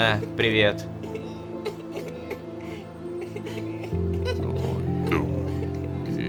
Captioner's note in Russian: Плач детей